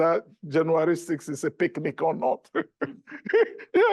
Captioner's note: laughs